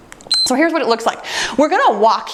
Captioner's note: timer beeps